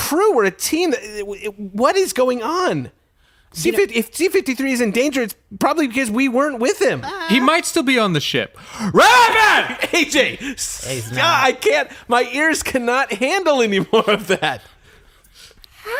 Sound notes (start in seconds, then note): 8.9 screaming